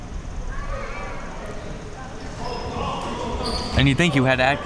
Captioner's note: audience chattering